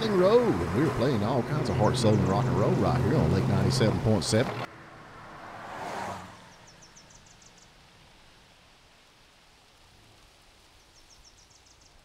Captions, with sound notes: And we are were playing all kinds of heart, soul, rock 'n' roll right here on Lake 97.7-- [outdoor din]